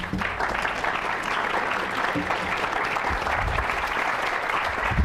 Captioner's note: applause